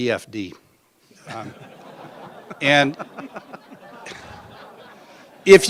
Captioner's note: laughter